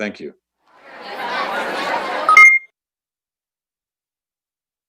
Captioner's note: crowd murmuring